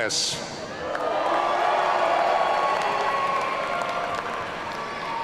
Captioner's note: audience cheering